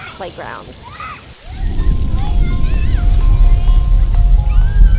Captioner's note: children Playing